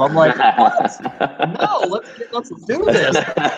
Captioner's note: laughter